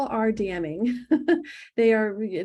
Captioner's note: laughs